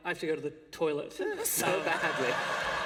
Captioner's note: laughter